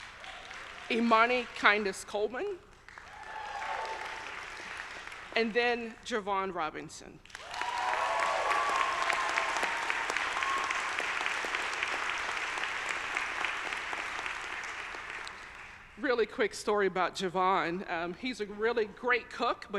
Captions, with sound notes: Imani Kindness-Coleman, (audience cheering) and then Jevon Robinson. (audience cheering) Really quick story about Jevon, he's a really great cook